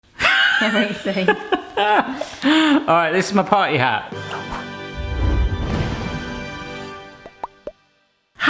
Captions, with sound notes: (wheezing) - All right, this is my party hat. (playful music)